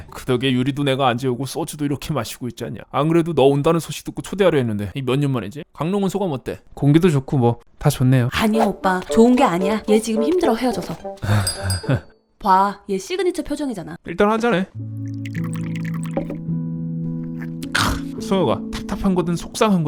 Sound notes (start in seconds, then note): 11.2 nervous Laughter